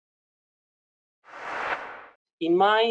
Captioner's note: swoosh